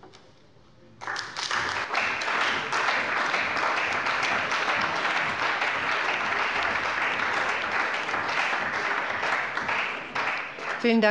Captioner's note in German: Beifall bei der CDU und dem BÜNDNIS 90/DIE GRÜNEN